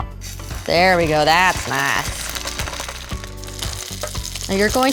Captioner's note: sizzling